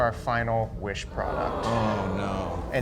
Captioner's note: crowd awing